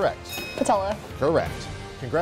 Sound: bell chimes

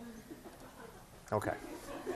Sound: laughing

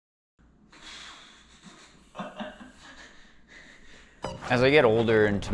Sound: panting and laughing

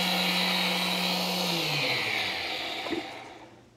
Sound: blender stops

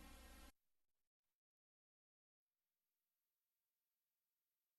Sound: silence

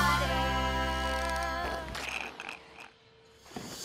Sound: gurgling

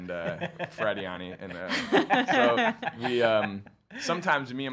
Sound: laughing

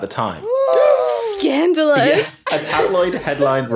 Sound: gasp

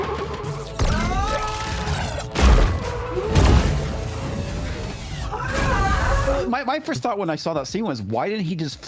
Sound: screaming

